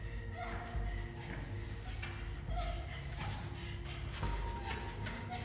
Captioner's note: Alex gasping fearfully